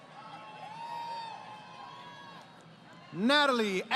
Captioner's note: crowd Cheering